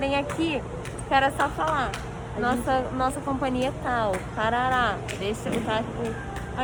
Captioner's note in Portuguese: faz um barulho com a boca